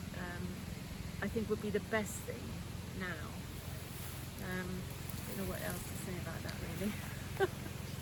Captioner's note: laughter